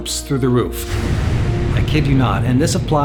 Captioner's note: swooshing rocket